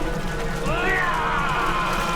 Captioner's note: yelling